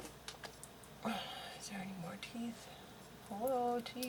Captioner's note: sighs